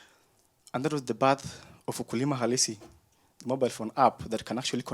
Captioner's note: speaks in foreign language